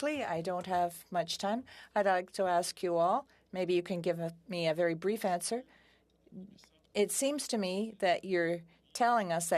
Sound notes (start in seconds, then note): 5.9 speaking French